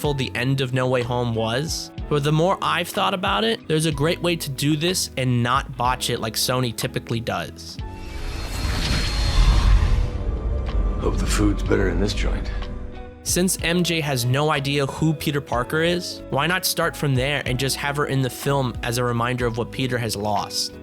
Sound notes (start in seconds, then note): 7.9 Sony’s silly multiversal noises